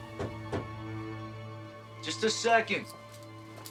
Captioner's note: light knocking